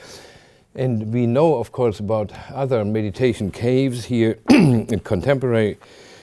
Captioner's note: clears throat